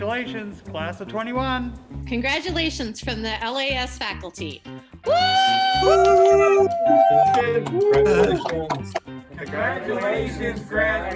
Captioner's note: cheering